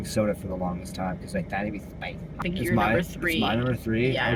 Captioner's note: voice that lives in the nose